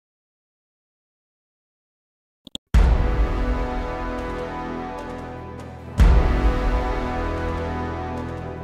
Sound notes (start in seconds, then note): 2.4 mouse clicking; 2.8 dramatic chord